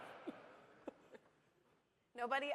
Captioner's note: laughter